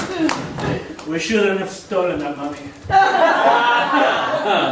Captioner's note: in Swedish accent